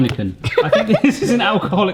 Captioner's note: laughing